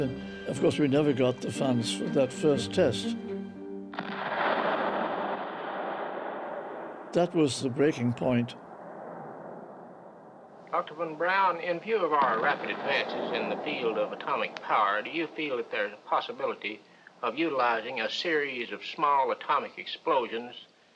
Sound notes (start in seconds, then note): 3.9 explosion echoes